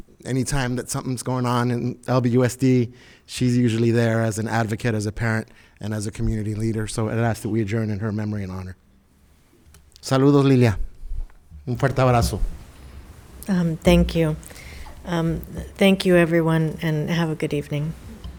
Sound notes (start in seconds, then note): 10.2 speaking in foreign language